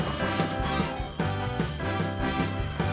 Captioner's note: beeps